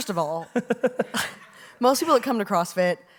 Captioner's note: laughs